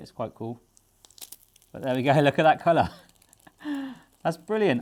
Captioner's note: laughs